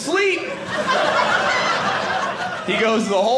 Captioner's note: audience laughing